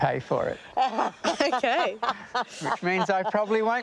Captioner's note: laughs